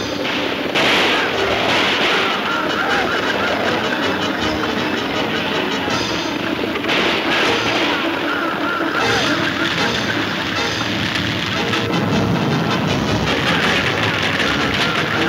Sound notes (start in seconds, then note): 0.2 guns firing; 6.7 guns firing; 9.2 exciting music; 11.7 hooves thundering